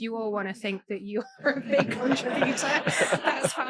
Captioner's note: audience laughing